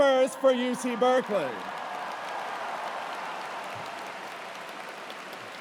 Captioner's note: cheers and applause